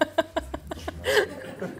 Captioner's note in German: Kichern